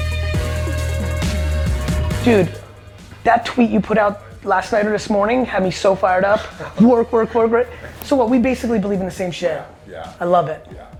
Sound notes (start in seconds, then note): 6.2 Jocko laughs